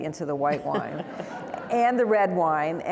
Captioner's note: audience laughing